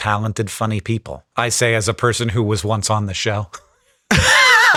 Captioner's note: Sam laughing; chuckles